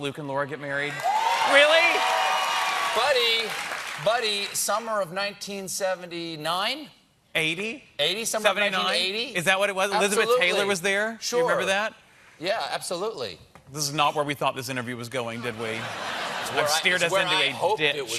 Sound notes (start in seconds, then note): 4.7 cheers and applause